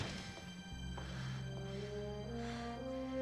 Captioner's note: breathing heavily